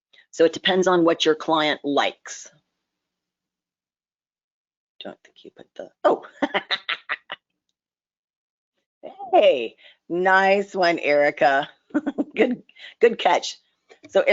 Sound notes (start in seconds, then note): 6.2 laughs